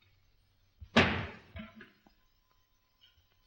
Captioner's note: bang